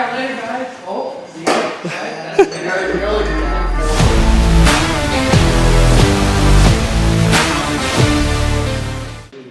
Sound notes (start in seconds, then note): 1.8 giggling; 2.9 upbeat rock music